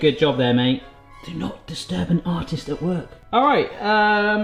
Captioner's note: whispering